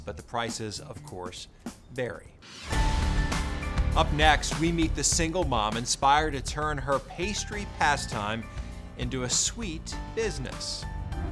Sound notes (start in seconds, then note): 2.5 air whooshes; 2.6 pensive music